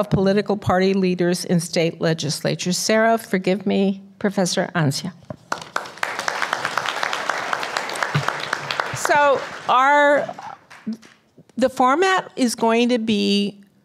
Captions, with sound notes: political party leaders in state legislature. Sarah, forgive me, Professor Anzia. (applause) So, our, the format is going to be brief comments,